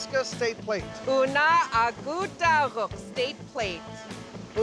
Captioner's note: speaking yupik